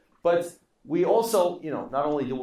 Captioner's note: none